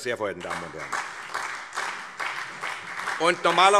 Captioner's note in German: Beifall SPD